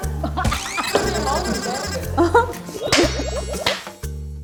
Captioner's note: pu ha ha